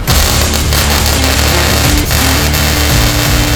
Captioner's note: welder Crackling